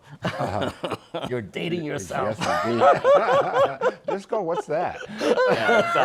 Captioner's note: laughter